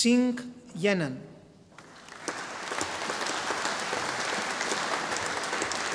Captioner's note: audience applauding